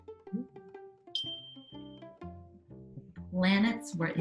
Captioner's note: stars tinkling